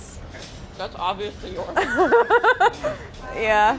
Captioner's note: laughs